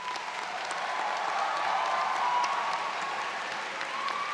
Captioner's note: audience cheers